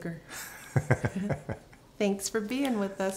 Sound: laughter

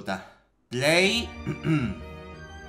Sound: coof coff infinite xd

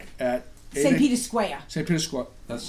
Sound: voiceover

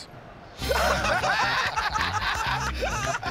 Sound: laughter

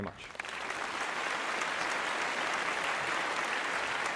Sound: applause

